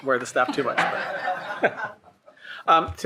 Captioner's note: laughing